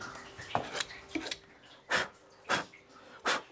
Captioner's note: blowing